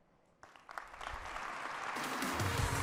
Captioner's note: applause